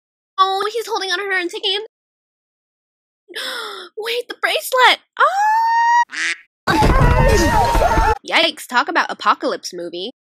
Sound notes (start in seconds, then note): 3.4 gaspp; 6.1 quack